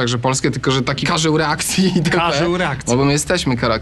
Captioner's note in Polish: śmiech